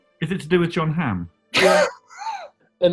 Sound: laughs

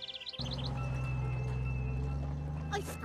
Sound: bell ringing

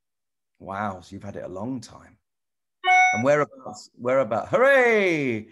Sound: computer notification sound

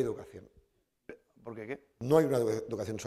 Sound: speaking spanish

